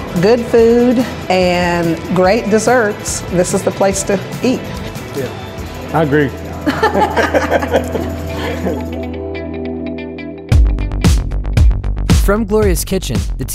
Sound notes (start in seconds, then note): 6.6 laughing; 9.1 upbeat music